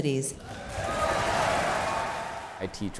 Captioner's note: audience claps